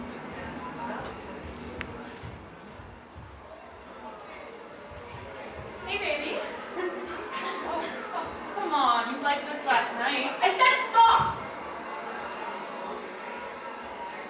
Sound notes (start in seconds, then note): 3.2 high school sounds